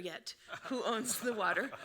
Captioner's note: laughing